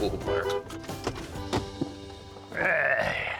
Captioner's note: honks horn